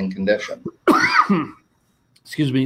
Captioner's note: coughing